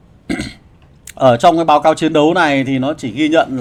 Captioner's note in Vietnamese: hắng giọng